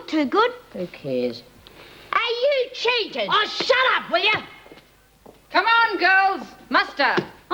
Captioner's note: yells